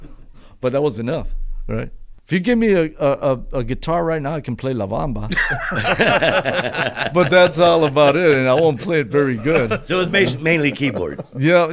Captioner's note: laughter